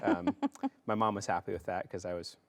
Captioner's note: laughs